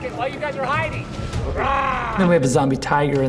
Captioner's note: growls